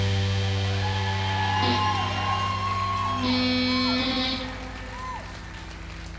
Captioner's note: applause